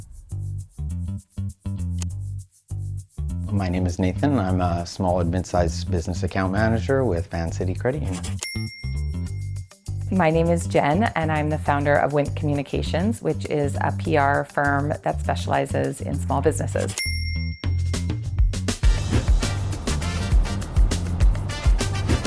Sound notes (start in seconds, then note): 0.2 upbeat music; 8.2 bell ringing; 16.9 bell ringing; 17.6 upbeat music continues